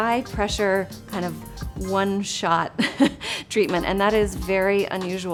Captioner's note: chuckles